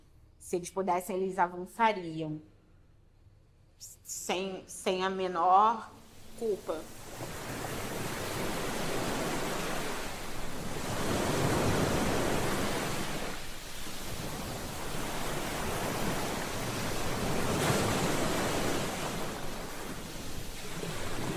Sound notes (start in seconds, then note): 8.3 waves